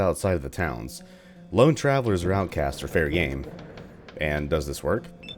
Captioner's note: thunder